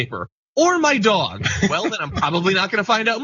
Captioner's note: laugh